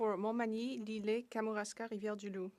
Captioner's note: speaking French